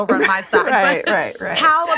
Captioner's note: laughing